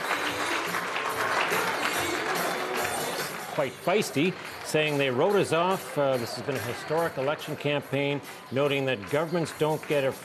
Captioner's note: cheers and Applause